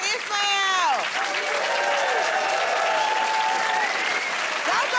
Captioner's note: cheers and applause